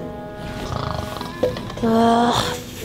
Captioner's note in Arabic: السعال; أصوات الشخير